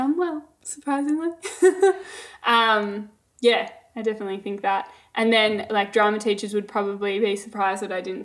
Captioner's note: laughing